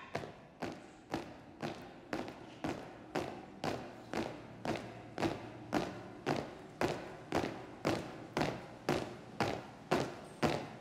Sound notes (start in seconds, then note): 0.5 footsteps thump in rhythm; 5.7 feet stamp loudly in unison